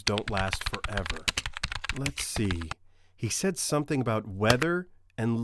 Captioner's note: typing